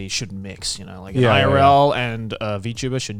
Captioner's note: affirmative murmuring